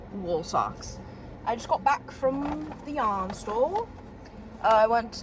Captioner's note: british accent